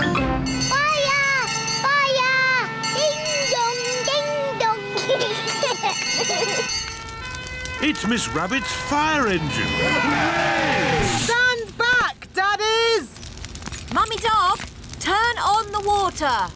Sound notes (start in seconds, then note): 2.7 bell rings; 4.9 children giggling; 6.9 siren blares; 9.3 all cheer